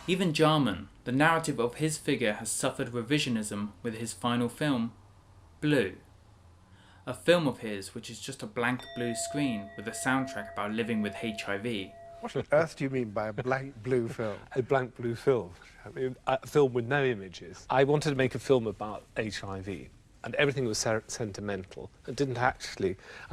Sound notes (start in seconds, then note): 13.3 laughing